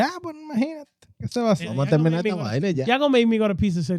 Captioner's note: speaking In Foreign Language